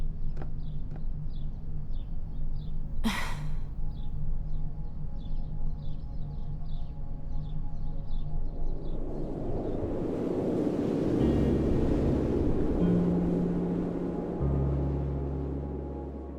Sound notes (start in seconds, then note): 3.0 sigh; 9.2 wind woosh